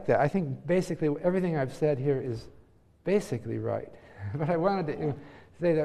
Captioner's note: laugh